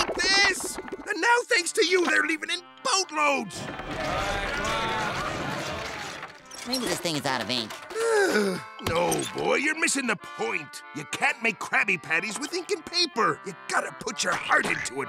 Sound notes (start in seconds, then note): 7.9 sighing